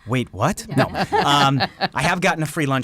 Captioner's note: all Laugh